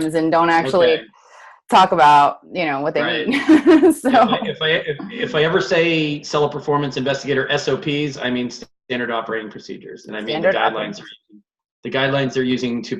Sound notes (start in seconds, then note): 2.9 laughs